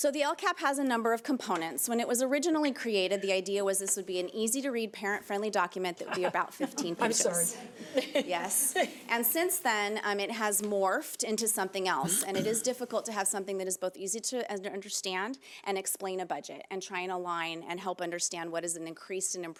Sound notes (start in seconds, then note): 6.0 panel members laughing